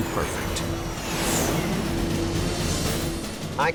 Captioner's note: engines whining